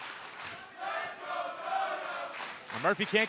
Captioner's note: fans chanting